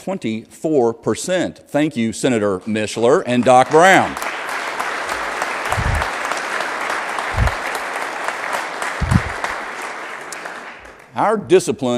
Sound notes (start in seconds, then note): 9.7 applause